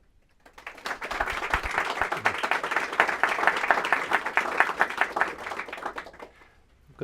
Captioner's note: applause